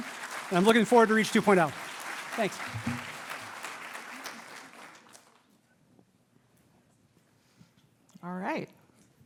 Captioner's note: applause